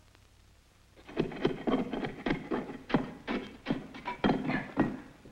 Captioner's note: tool thuds and scrapes